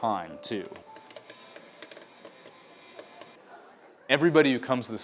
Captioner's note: popcorn machine popping